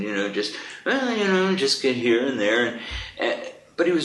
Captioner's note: hums a tune